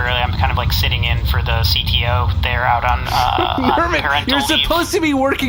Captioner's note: shouting